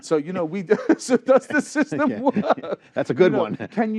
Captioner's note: laughter